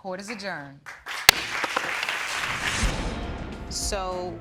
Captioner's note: bangs gavel